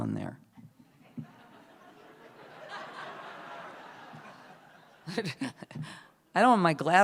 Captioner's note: laughter